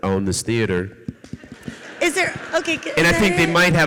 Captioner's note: audeience laughs